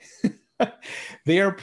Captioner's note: laughs